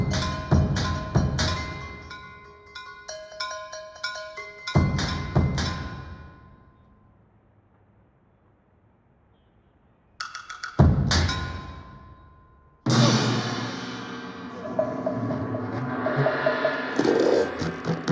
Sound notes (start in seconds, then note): 14.2 gong banging; 15.2 chaotic music